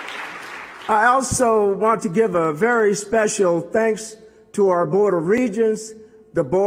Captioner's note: applause